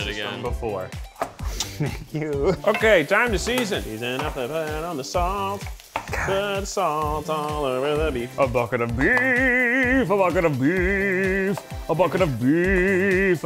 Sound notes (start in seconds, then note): 4.2 humming; 8.8 singing